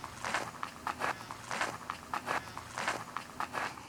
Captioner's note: footsteps on gravel